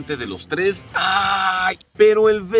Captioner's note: groans